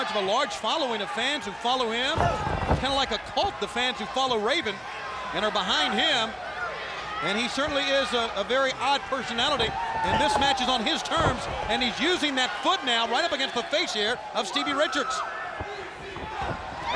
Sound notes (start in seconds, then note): 1.8 body thudding; 1.8 blows thudding; 15.6 footsteps plodding